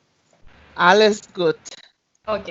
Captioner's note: German